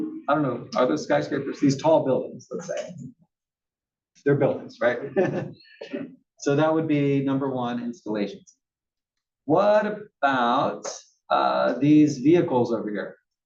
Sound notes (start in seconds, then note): 4.9 laugh